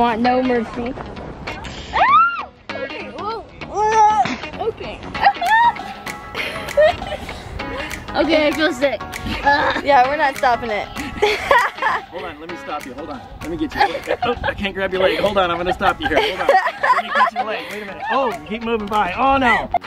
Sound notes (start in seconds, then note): 1.9 squeals